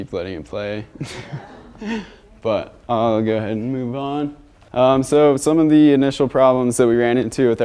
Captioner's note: laughter